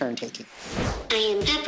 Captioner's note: robot talking